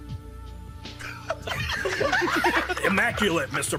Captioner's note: dubbers laughing